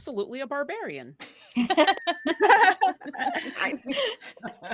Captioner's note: cast laughing